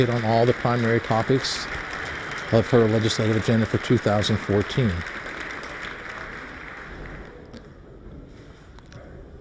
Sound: applause

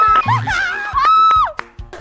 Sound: burst into laughter

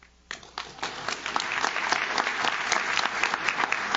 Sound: audience claps

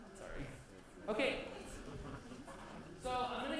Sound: laughter

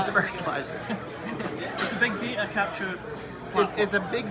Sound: laughs

